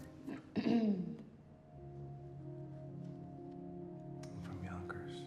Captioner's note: Betsy clears throat